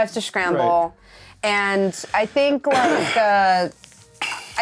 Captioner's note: clears throat